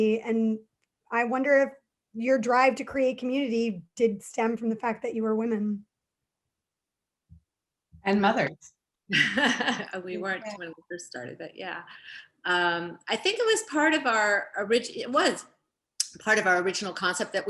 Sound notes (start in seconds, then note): 9.4 laughs